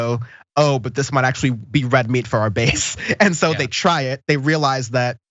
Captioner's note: laugh